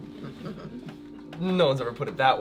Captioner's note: all chuckling